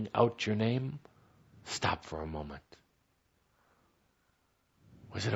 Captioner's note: none